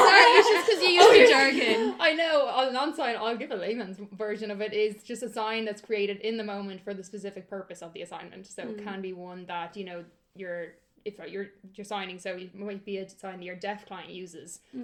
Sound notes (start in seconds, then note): 0.0 laughter